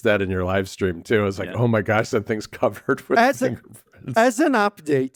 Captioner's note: laughs